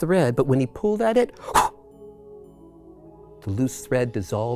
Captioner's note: whooshes